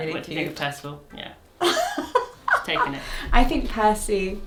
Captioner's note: laughs